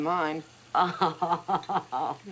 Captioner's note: laughs